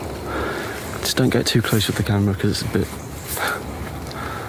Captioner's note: sighs